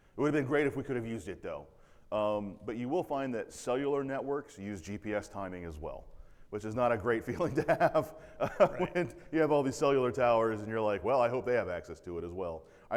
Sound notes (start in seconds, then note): 7.2 laughs